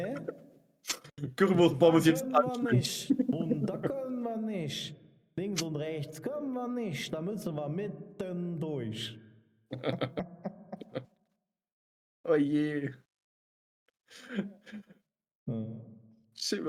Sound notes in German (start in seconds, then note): 9.7 gelächter